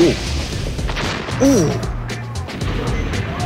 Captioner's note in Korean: 폭발